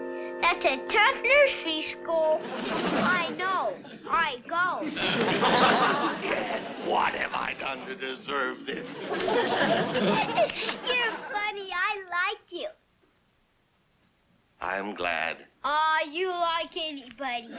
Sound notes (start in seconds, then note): 4.8 audience laughs; 8.5 giggles